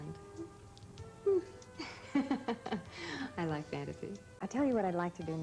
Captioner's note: laughs